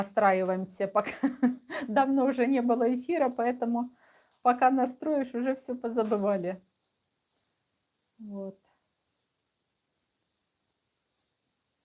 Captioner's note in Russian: смех